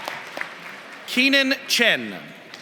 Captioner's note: applause